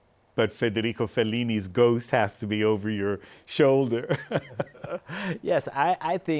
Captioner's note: laughing